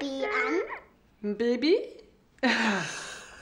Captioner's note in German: lacht